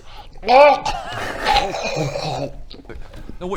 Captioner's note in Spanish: ruidos de arcadas